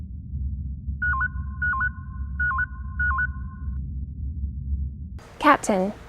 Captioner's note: communication beeps